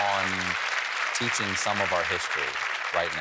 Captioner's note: applause